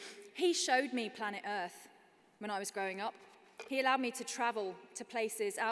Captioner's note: none